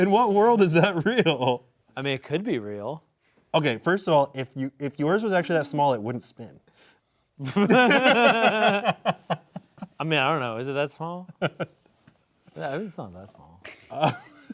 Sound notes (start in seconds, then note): 7.4 both laughing